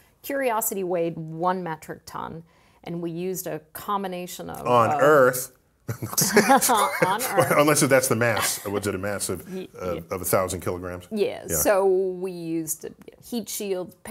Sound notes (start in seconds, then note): 5.9 laugh